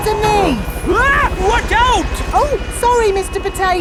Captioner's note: screams